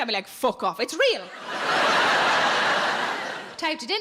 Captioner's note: audience laughing